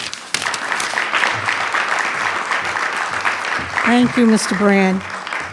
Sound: attendees clapping

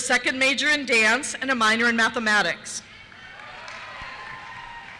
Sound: cheers

